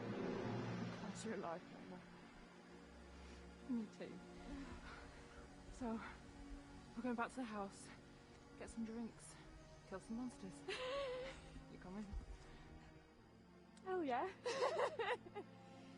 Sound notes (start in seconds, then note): 4.8 heroic music swells; 10.6 Mona laughing; 14.4 chuckling